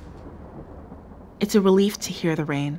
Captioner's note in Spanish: La lluvia suena de fondo